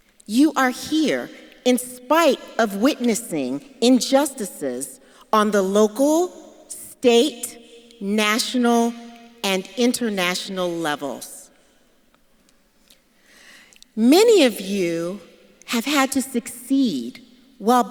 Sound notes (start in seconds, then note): none